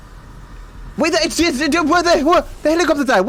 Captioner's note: speaks gibberish